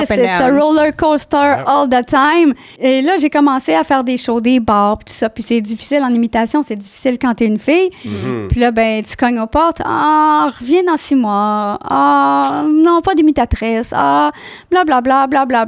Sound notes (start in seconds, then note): 2.7 in french